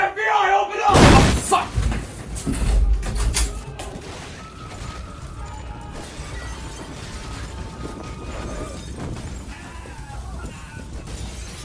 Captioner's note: knocks